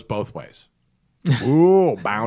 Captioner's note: laughter